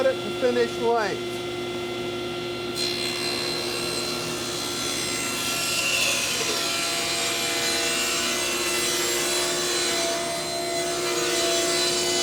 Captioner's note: power tool humming